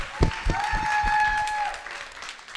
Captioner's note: clapping